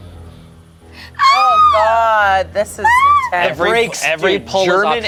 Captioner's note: yells